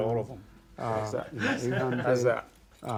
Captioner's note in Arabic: المحاور يضحك